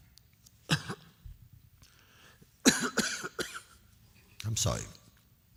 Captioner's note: coughing